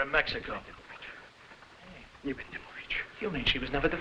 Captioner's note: Oskar mumbling in foreign language